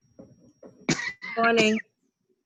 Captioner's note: coughing